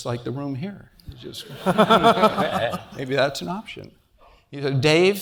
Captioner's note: laugh